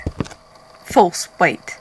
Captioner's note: footsteps